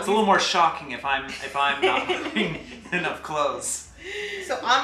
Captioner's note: laughs